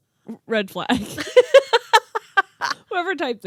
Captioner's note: laughing